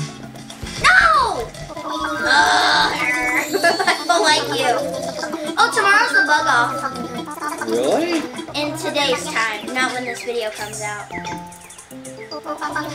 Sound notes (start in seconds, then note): 2.0 Animalese murmuring; 2.9 groaning